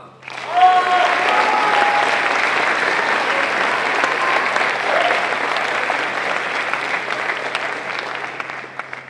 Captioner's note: applause